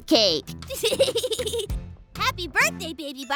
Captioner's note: chuckles